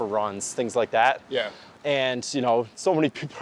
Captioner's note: pat